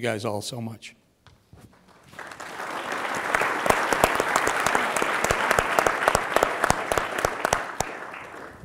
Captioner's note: applause